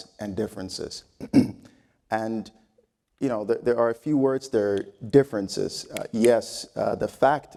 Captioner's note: cough